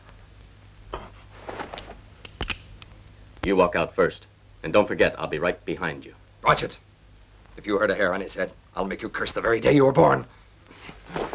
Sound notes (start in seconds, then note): 1.7 gun clicks